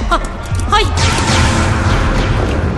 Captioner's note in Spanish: dos disparos de blaster